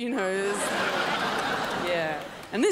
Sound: crowd laughs

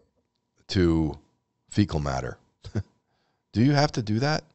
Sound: chuckles

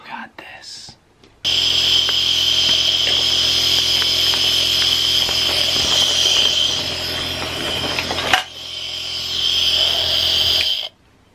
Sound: nebulizer machine running

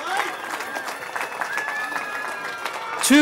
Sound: cheering

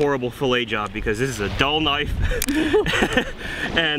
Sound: both laughing

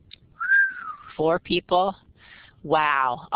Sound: whistles

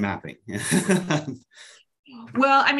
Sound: laughs

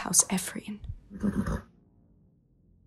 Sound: neigh

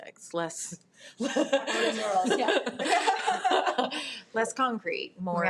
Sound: people laugh

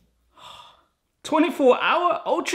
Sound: exasperated sigh

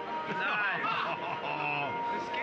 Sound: muffled light music; loudly laughing

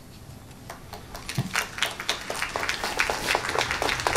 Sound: crowd clapping

